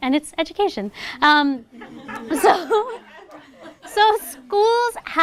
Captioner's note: laughter